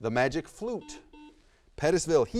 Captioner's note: buzzer buzzes